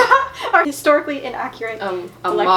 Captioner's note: laughs